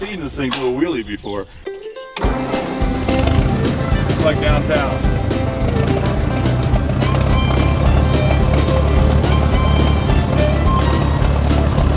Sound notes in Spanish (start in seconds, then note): 2.2 arranque del motor